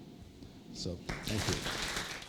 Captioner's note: applause